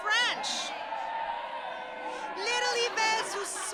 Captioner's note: audience chattering